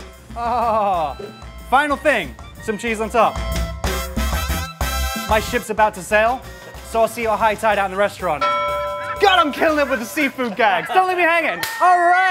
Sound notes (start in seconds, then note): 8.4 bell ringing